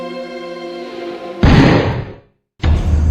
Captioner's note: drum Beating; gunshot Ringing